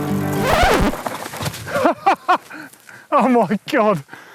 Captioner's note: record scratch